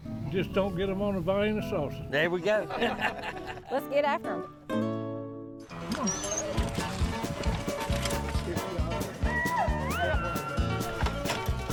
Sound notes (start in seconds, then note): 2.6 group laughs; 5.7 dogs whining; 5.8 upbeat country music